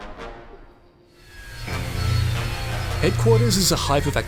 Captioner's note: plane engine